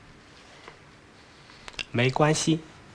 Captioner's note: speaking in Chinese